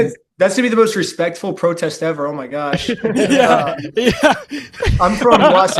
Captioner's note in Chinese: 笑声